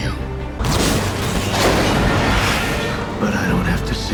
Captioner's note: slicing and separating metal